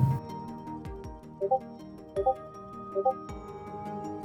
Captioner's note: SFX: Discord notifications